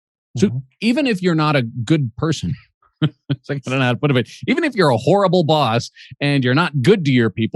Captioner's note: laughs